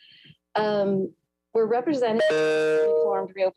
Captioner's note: bell chimes